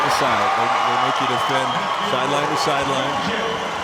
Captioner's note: audience cheers